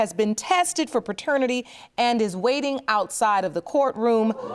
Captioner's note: audience gasps